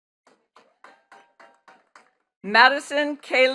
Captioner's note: attendees clapping